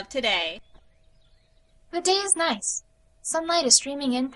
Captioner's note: alarm stops. Birds are chirping in the background